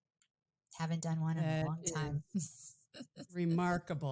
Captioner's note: chuckles